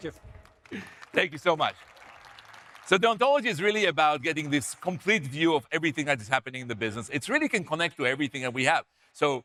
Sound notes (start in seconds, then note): 0.0 audience applauding